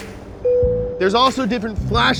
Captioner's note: dinging